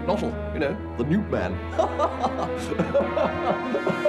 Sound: laughing

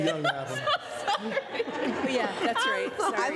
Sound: laughing; laughter

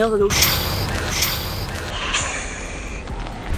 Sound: whoooooosh

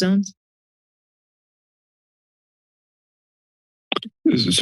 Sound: silence

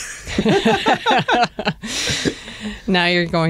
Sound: laughter

